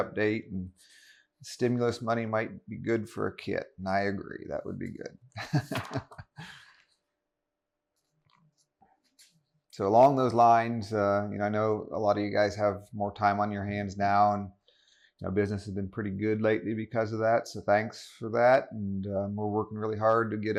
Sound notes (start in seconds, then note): 5.4 laughs